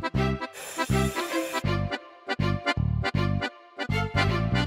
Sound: classic Italian music; vacuum sucking

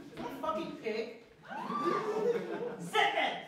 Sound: laughter

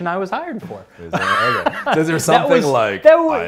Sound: laughs

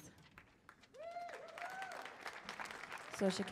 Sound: audience cheers

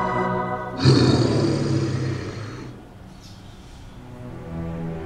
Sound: roar

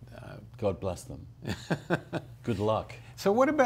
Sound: chuckles

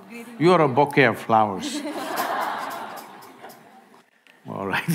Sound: laughter

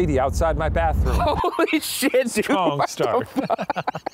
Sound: laughing

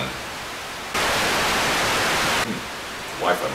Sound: static continues

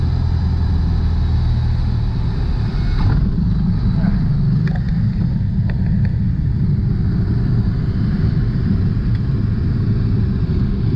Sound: airplane landing noise

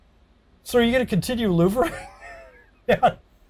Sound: laughs

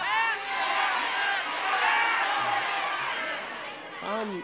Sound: crowd shouting

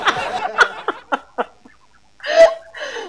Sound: laughter

